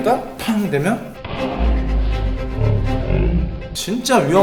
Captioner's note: shockwave